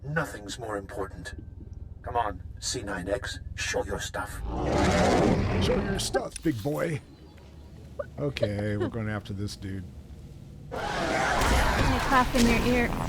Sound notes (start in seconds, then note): 7.7 chuckles; 9.3 tense music